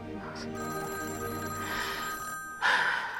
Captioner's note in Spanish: Suena el teléfono